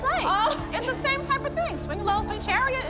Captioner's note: laughter